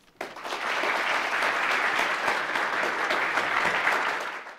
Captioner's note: applause